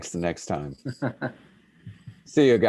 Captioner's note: laughing softly